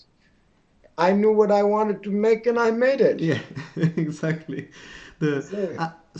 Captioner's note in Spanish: Risas